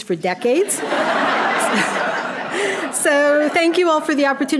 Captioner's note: audience laughing